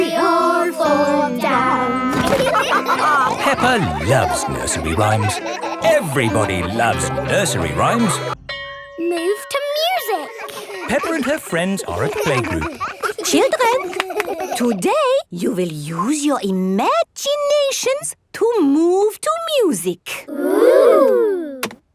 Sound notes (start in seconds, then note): 2.2 all laughing; 12.9 all laughing